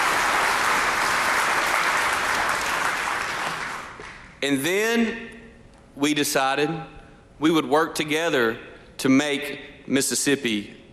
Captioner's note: applause